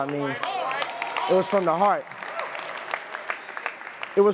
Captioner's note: audience clapping